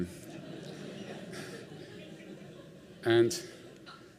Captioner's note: laughter